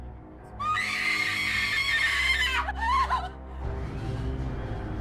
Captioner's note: somber music; woman screaming